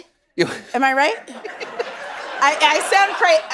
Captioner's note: chuckling